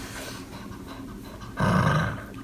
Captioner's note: growls